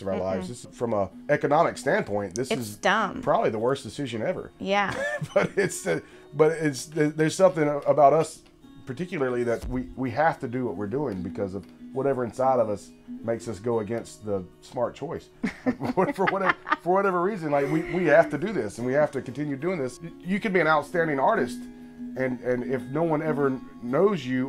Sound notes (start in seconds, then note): 15.4 laughter